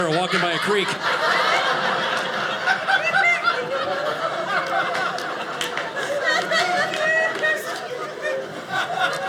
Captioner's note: audience laughing